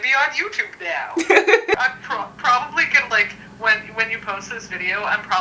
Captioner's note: laughs